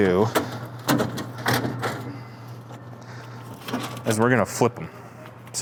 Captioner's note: pieces cranking